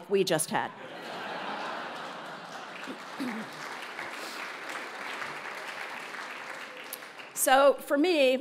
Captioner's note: laugh; applause